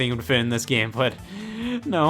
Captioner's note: deep breath